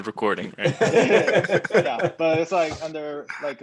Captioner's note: laughing